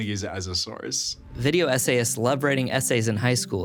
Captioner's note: screen whooshing